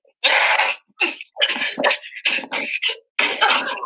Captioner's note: grunting